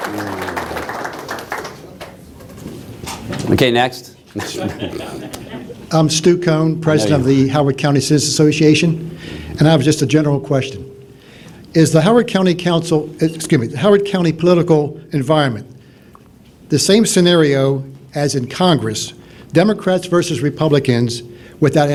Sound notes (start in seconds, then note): 4.4 laughter